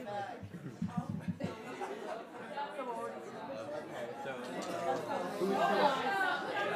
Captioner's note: audience talking indistinctively